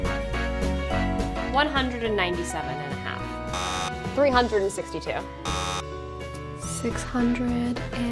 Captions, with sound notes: 197 1/2. [buzzer buzzes] 362. [buzzer buzzes] 694.